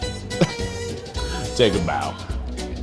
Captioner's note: laughs; light, whimsical music